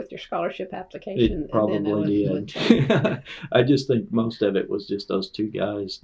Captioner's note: laughter